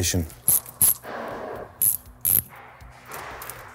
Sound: tool clicking

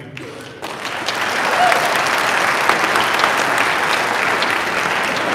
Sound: audience applauding

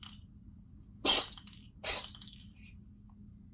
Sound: Kuma sneezes

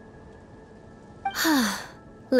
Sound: sigh

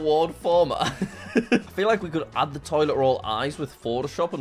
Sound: chuckles

